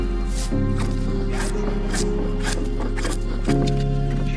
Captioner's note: wood scraping